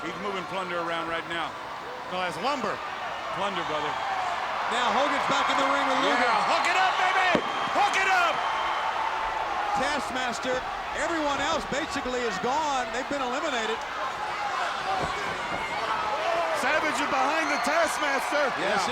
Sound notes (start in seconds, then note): 8.7 crowd cheering; 13.9 crowd yelling